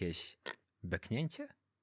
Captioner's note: belch